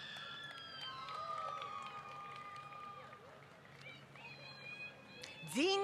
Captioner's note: applause